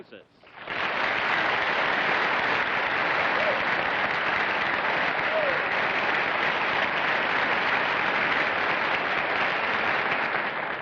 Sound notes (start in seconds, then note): 2.4 applause